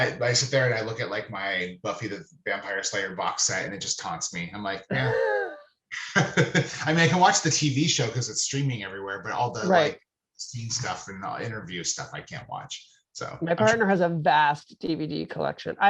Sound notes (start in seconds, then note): 6.0 both laughing